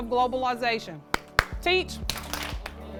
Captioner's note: clapping; claps